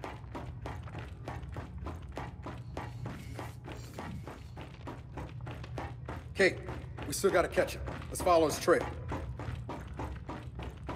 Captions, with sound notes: [footsteps] Kate, we still gotta catch him. Let's follow his trip.